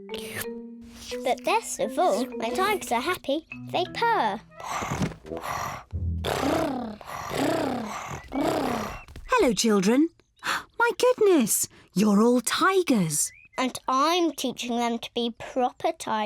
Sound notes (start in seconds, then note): 3.8 all purring; 3.8 purring; 9.5 gasps